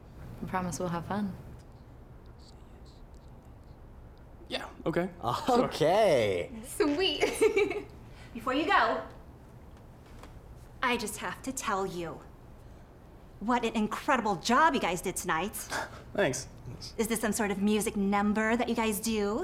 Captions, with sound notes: We promise we'll have fun Say yes Yeah, okay Okay! Sweet! (giggling) Before you go - I just have to tell you - What an incredible job you guys did tonight! Thanks! Is this some sort of music number that you guys do?